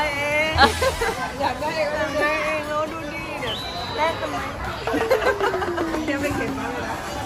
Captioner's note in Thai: เสียงหัวเราะ